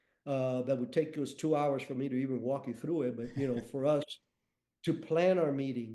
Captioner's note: chuckles